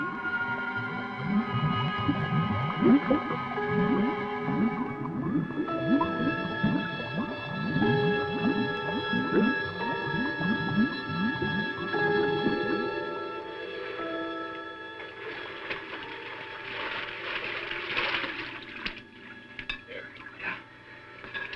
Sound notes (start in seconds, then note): 0.3 bubbles gurgling; 14.9 water splashing